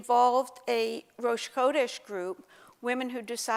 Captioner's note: Hebrew